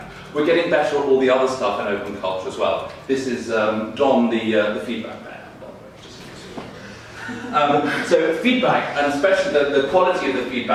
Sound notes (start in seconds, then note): 7.1 audience laughing